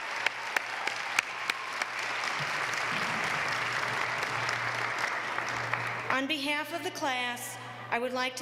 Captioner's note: applause